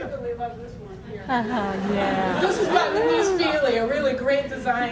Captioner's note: audience laughter